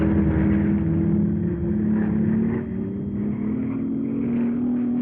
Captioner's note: plane engines rumbling